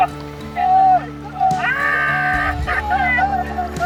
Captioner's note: screaming